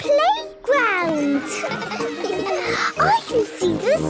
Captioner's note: children laughing